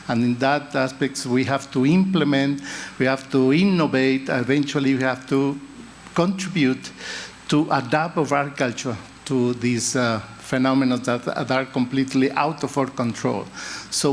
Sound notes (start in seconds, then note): none